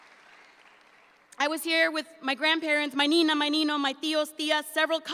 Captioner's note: speaks in Spanish